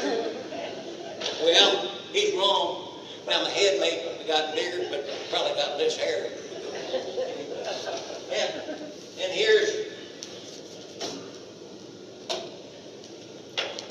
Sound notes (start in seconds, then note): 0.0 audience laughter; 6.4 audience laughter